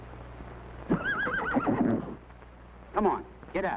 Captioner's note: whinnying